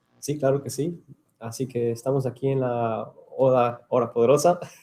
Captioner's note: speaking in Spanish